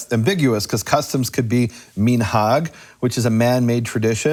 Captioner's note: speaking in foreign language